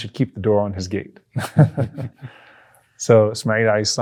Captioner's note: chuckles